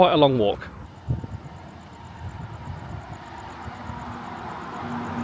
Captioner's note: bus humming